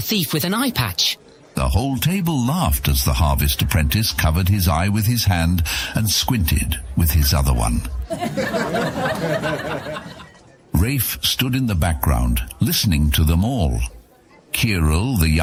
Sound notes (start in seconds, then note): 8.0 laughs